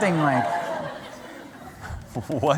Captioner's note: laughter